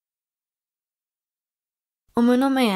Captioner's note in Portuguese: Voz feminina